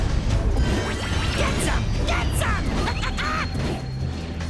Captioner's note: laughs